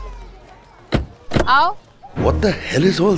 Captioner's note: Car door closes